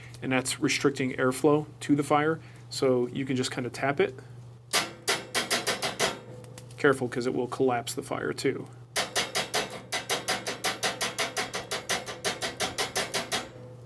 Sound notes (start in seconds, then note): 4.8 tapping; 9.0 tapping continuously